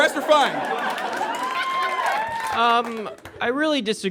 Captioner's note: audience laughs and cheers